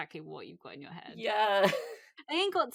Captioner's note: laughs